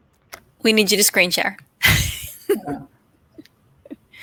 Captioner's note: laughs